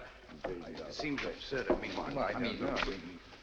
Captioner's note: clamoring continues